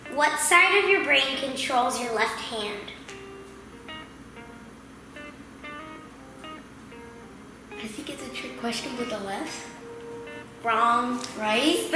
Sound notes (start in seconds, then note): none